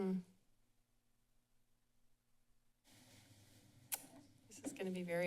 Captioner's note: silence